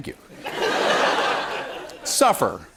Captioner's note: laughter